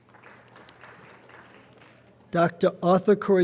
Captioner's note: light applause